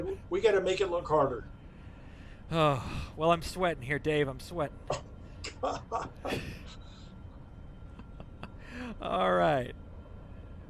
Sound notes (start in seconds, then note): 2.5 sighs; 5.8 laughter